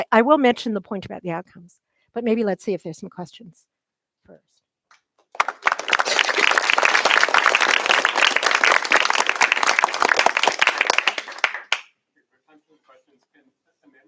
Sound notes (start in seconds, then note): 5.3 applause